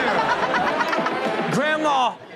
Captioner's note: audience laughing